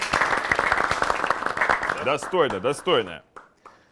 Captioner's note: applause